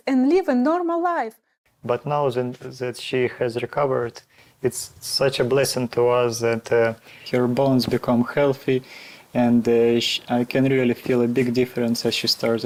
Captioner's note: voiceover